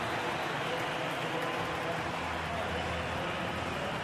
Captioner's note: crowd cheering